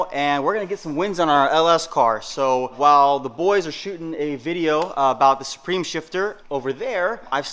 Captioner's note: none